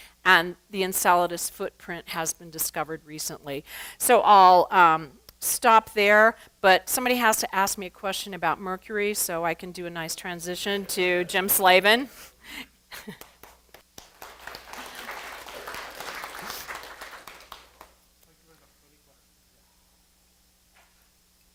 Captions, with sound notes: And the Enceladus footprint has been discovered recently. So I'll stop there, but somebody has to ask me a question about Mercury. So I can do a nice transition to Jim Slavin. [APPLAUSE] Let's think of three questions. Yeah.